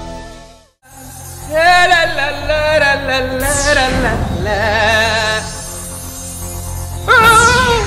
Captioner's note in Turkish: Şarkı mırıldanır